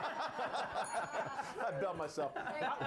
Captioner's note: laughter; bell rings